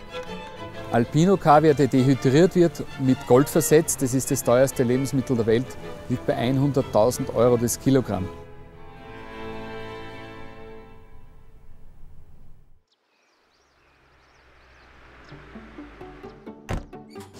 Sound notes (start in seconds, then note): 12.5 birds chirping; 15.4 light violin music